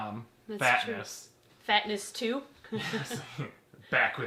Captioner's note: both laugh